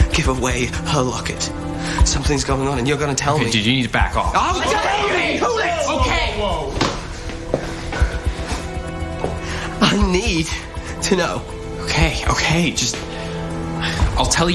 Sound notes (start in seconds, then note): 4.6 Toți țipând